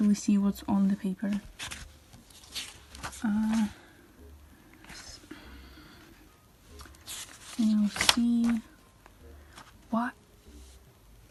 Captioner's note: sigh